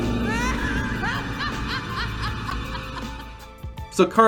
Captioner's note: Kharma laughing